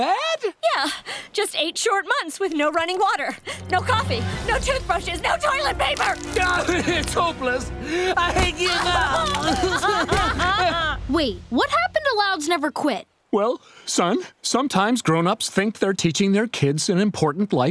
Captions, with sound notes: Yeah, just eight short months with no running water. No coffee, no toothbrushes, no toilet paper. [sobbing] It's hopeless! I give up! [crying] Wait, what happened to "Louds never quit"? Well, son, sometimes grown-ups think they're teaching their kids an important life lesson